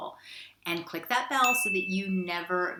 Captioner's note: bell dings